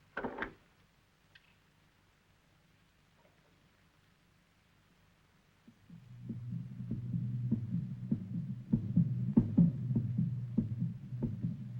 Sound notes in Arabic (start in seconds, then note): 0.2 صرير الباب; 5.9 دقات القلب تتسارع